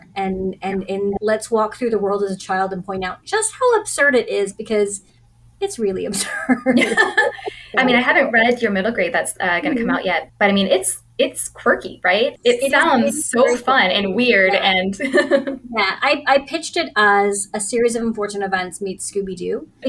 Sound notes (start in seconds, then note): 15.0 laughter